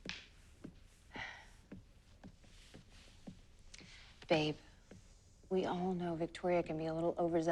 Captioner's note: sighs